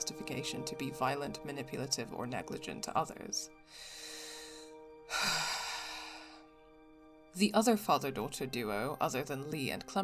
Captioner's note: long suffering sigh